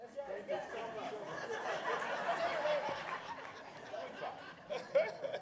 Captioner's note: laughter